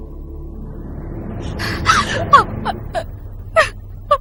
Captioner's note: sobbing